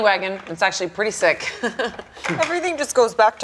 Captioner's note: laughing